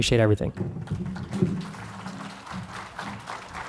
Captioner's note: clapping